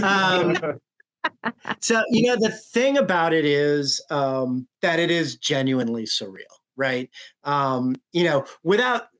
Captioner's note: normal voice